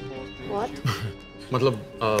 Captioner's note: Keshav laughs